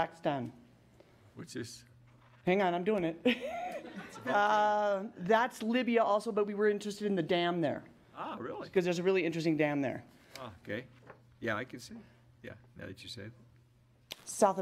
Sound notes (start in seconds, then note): 3.3 laughs